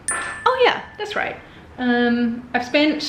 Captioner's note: bell dinging